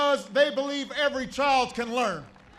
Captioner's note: applause